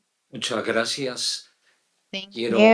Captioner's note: speaks in foreign language